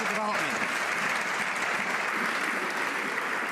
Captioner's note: some Applause